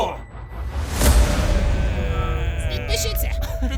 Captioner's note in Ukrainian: Звуки крінжі